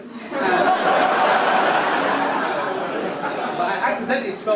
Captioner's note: audience laugh